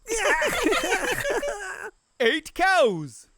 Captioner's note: laughter